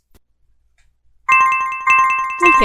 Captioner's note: jingle... Jingle... Jingle